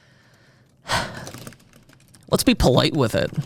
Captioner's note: instructor exhales